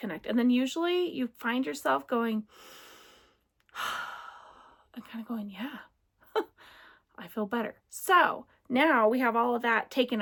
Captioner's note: deep breath